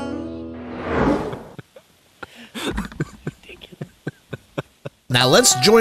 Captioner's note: laughter